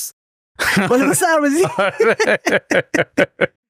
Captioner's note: laughs